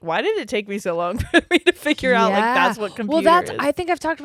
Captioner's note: laughs